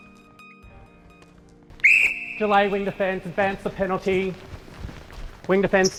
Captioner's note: whistle